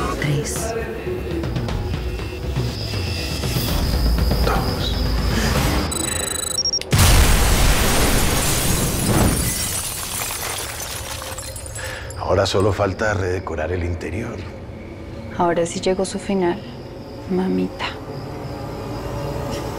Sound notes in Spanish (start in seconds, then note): 6.9 Estruendo